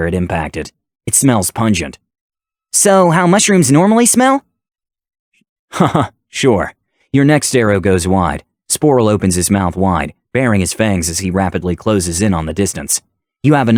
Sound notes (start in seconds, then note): 5.7 laugh